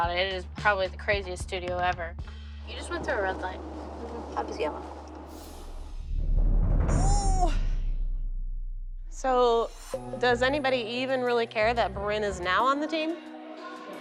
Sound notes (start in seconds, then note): 6.8 groans